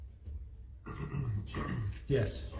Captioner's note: man clears throat